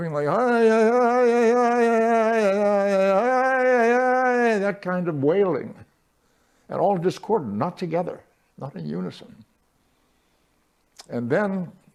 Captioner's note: chanting